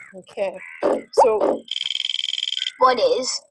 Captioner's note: elephant trumpeting; wheel clicking; voiceover